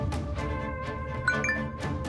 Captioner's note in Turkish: Mesaj sesi